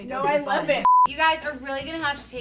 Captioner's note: beep